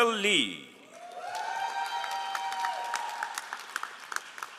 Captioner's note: all applauding